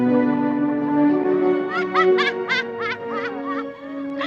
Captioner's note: maniacally laughing